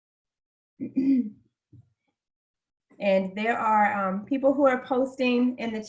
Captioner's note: cough